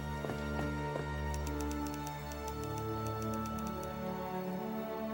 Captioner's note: typewriter keys clicking; atmospheric music